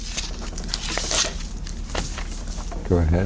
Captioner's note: ruffling papers